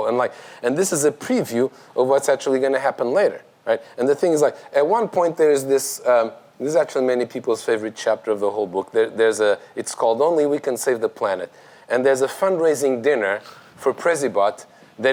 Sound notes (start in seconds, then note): none